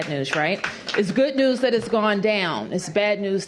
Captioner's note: applause